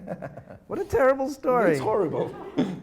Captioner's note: laughing